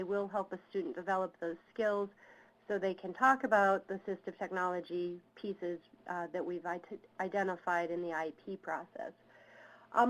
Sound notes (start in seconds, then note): none